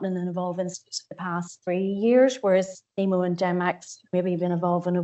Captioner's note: audio distorts 35.05